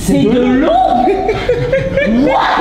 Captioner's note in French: rires